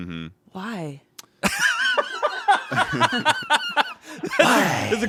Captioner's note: laughs